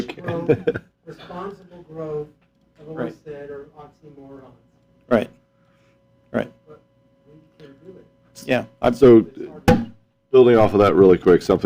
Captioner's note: laughter